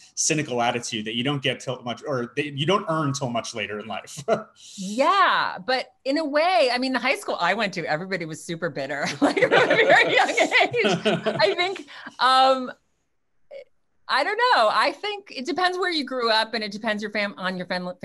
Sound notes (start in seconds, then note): 4.1 laughs; 9.2 laughing